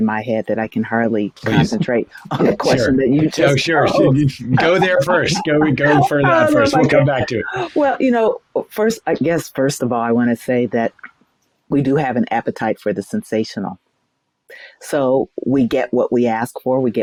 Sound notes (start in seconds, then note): 3.3 laughs